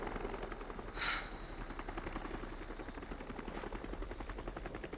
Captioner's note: Donna sighing